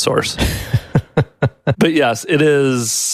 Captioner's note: laughing